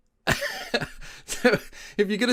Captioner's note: laughs